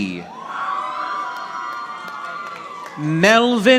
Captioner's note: audience applauding